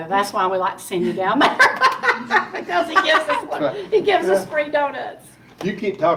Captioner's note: laughing